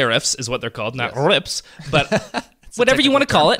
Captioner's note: laughs